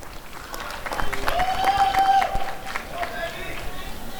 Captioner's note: applause and cheering